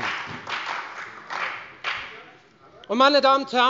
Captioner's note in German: Beifall bei der FDP